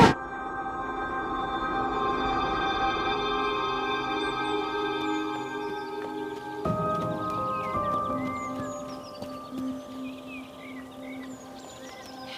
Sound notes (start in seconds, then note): 0.7 tense music; 4.8 birds chirping; 7.1 dramatic orchestral music